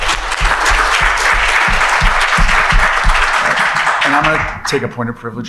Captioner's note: applause